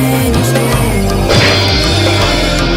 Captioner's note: smack!